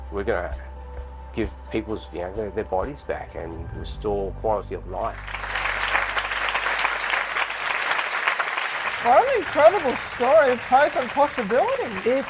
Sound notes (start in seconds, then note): 5.1 applause